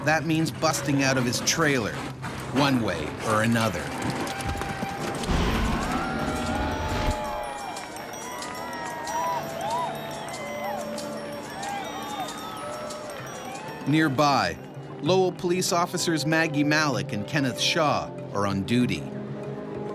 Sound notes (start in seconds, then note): 0.0 voiceover; 4.7 crowd cheering